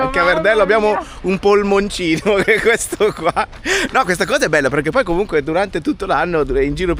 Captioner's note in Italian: risate